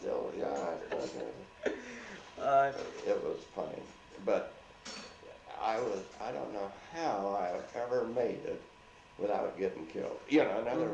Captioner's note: laughs